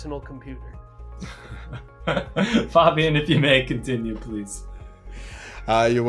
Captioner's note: laughs